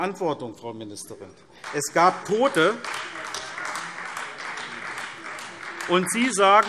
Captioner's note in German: Beifall SPD und DIE LINKE